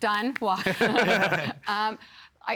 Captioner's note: all laughing